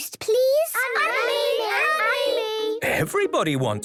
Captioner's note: all calling out